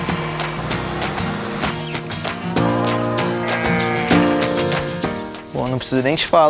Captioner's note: nature sounds